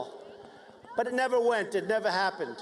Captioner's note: cheers and applause